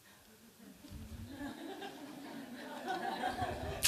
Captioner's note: laughter